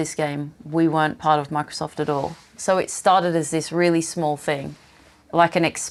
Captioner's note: none